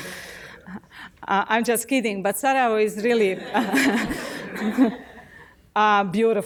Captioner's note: laughs